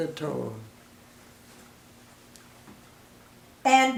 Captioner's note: silence